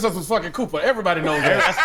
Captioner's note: laughs